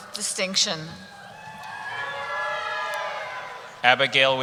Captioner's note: cheering